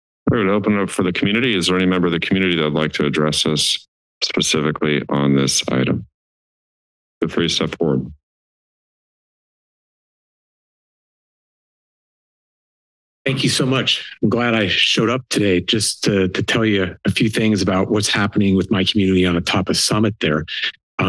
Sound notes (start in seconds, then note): 8.4 silence